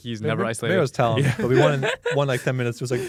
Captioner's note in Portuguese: risos